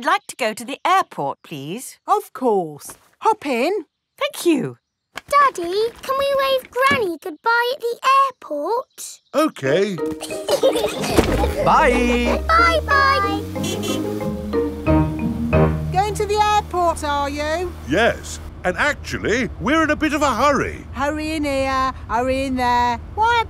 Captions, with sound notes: -I'd like to go to the airport, please. -Of course! -Hop in. -Thank you. Daddy, can we wave Granny goodbye at the airport? -Okay. -(LAUGHING) -Bye! -Bye-bye! (HORN HONKING) Going to the airport, are you? Yes, and actually we're in a bit of a hurry. Hurrying here, hurrying there.